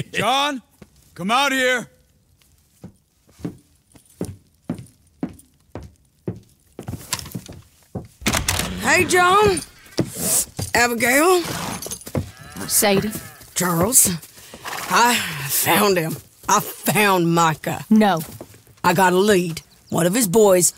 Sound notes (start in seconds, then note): 6.1 door opens